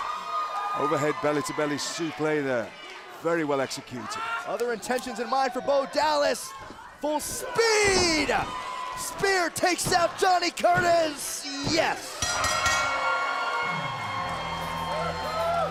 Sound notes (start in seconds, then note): 12.1 bell ringing; 12.6 crowd cheering